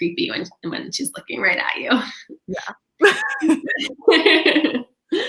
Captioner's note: laughing